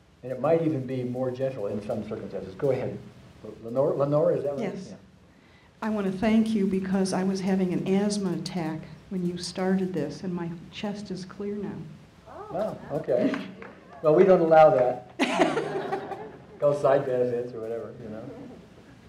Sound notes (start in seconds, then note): 13.2 audience clapping; 15.2 audience laughing